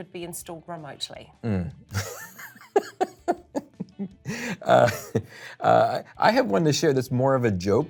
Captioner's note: laughter